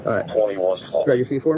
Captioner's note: radio chatter